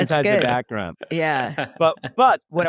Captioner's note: laughs